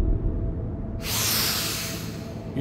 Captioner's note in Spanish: Inhala